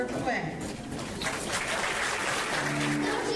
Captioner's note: applause